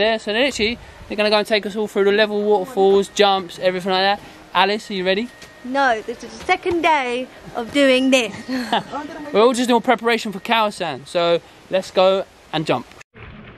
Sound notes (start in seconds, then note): 8.3 both laugh; 13.2 sound of water and people paddling